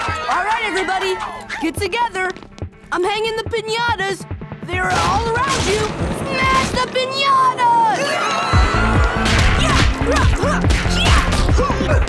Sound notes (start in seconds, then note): 0.0 candy people cheering; 8.0 candy people yelling